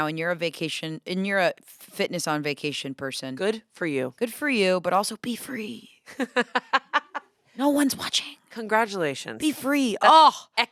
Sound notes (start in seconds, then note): 6.0 laughs